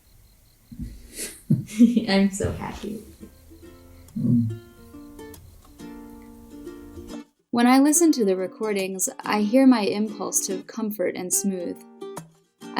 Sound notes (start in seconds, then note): 0.8 both chuckle; 4.1 soft guitar music